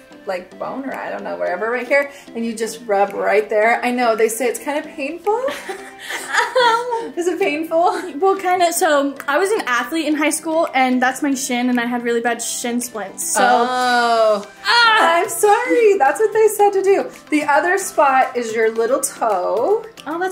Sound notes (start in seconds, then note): 13.4 groans